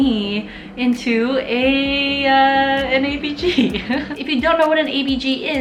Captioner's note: chuckling